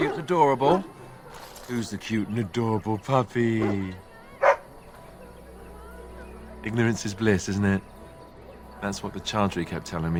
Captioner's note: Barkspawn barks